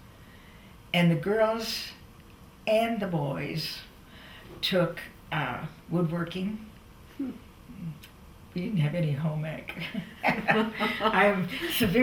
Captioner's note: laughter